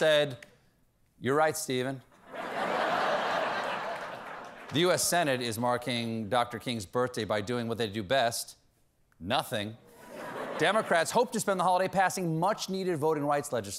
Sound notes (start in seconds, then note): 2.2 laughter